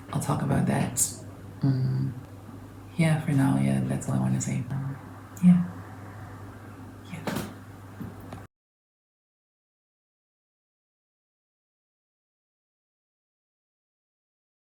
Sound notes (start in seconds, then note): 7.1 whispers